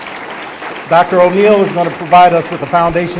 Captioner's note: applause